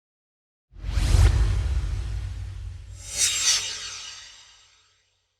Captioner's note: swoosh